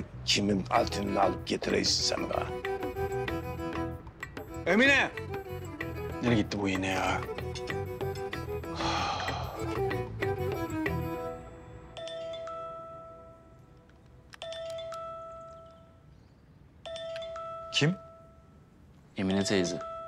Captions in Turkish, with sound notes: ...kimin altınını alıp getiriyorsun... ...sen bana? Emine! Nereye gitti bu yine ya? Ah. [Telefon Çalıyor] Kim? Emine teyze.